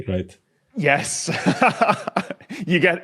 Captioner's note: laughs